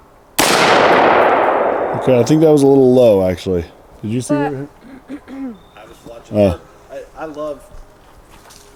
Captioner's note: gunshot